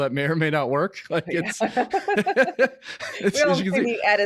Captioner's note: both laughing hysterically